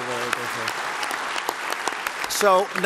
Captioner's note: applause